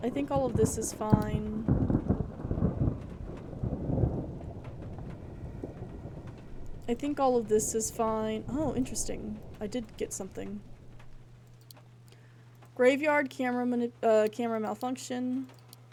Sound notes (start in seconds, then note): 1.7 thunder Continues